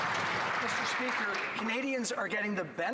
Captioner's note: some Applause